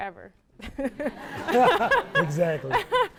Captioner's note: laughs